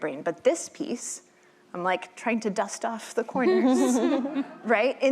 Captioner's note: chuckling